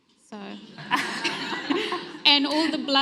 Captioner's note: everyone laughs